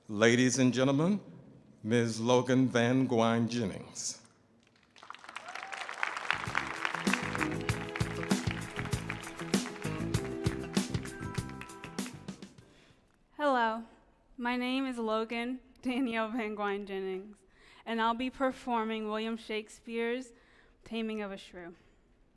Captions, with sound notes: Ladies and gentlemen, Miss Logan Van Guine Jennings. (audience applauding) (upbeat music) - Hello, my name is Logan Danielle Van Guine Jennings, and I'll be performing William Shakespeare's "Taming of the Shrew".